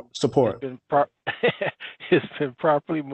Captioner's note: laughing